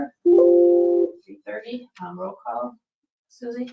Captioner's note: computer tone dings